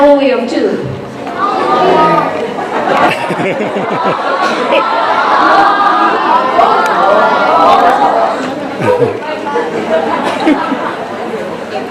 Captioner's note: overlapping arguments and laughter